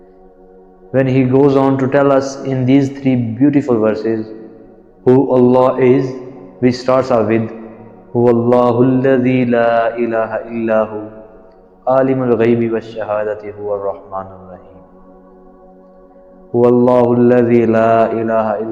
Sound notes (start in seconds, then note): 8.4 Arabic